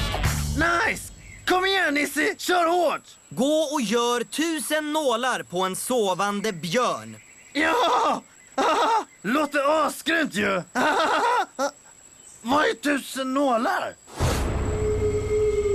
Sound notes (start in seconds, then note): 8.5 laughs